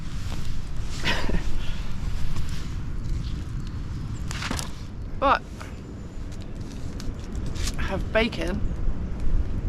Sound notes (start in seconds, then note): 1.0 chuckles